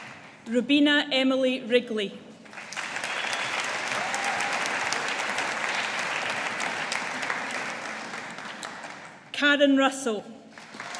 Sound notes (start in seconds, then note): 2.5 audience applauding; 10.6 audience applauding